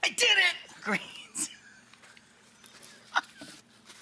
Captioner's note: laughs